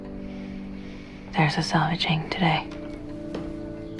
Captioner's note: voiceover